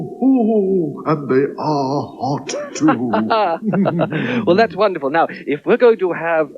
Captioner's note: laughs